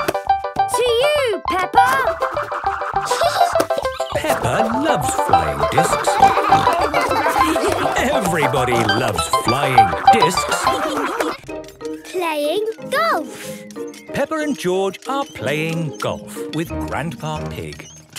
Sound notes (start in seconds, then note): 3.0 giggling; 6.1 snorting and laughter; 10.5 laughter